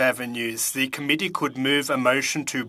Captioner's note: speaking French